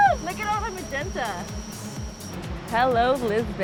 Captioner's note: drones buzzing